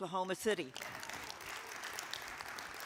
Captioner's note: attendees applaud